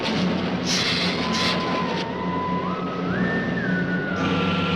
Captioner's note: lizard hissing